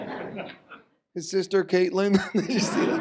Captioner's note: laughs